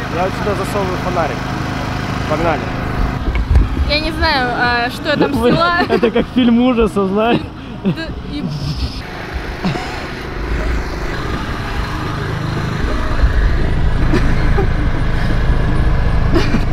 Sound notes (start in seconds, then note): 7.6 slurred speech